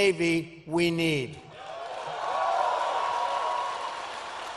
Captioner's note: applause